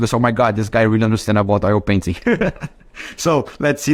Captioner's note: chuckles